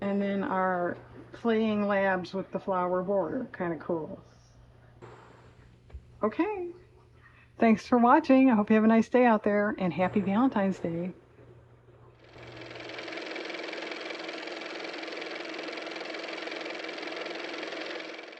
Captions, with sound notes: And then our playing Labs with the flower border. Kind of cool. Okay, thanks for watching. I hope you have a nice day out there and happy Valentine's Day. (car motor)